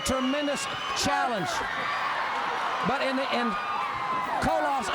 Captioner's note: crowd cheering